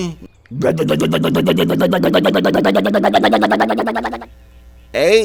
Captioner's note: engine sound